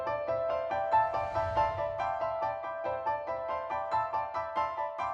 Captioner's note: ambient shimmering